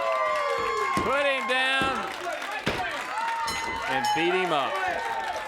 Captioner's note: bell dings